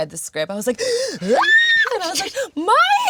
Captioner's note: screaming